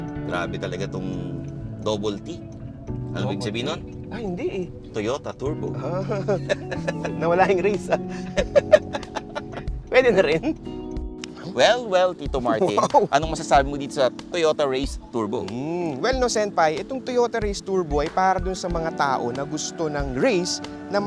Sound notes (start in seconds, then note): 5.9 laughs; 8.6 continue laughing